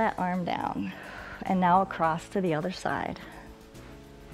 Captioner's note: exhales